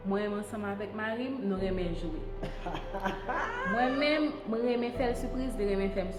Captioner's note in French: Rire… Ah ah ah